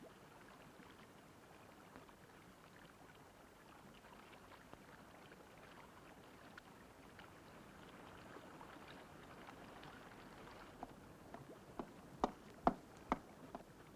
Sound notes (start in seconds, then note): none